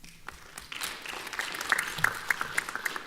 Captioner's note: applause